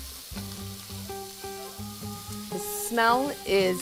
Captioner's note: pan sizzling